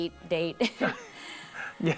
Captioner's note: nervous laughter